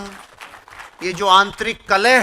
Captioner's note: rounds of applause